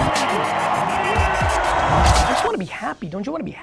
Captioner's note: crowd cheering; upbeat music building